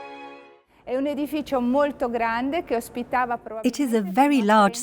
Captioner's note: speaking in foreign language